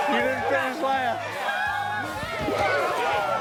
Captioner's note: cheering